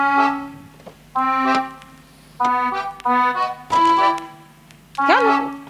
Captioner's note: upbeat music; doors unlatching